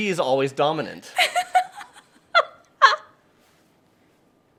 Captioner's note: laughing